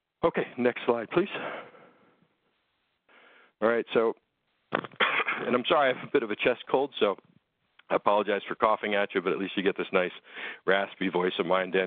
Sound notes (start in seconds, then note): 4.8 coughs